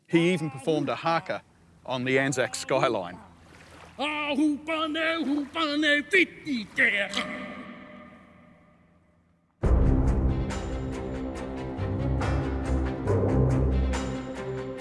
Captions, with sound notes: He even performed a haka on the Anzac skyline. (man chants in foreign language) (suspenseful music)